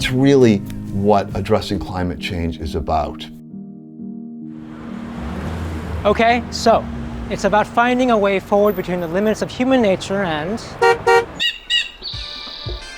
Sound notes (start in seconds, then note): 11.0 horn honking; 11.5 birds chirping